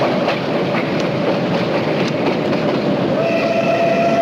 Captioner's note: engine whistle